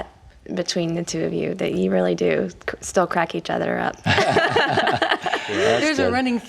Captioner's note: laughing